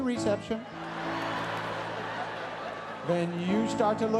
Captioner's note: audience laughs